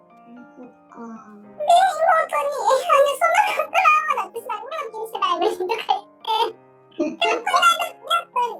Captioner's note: laughs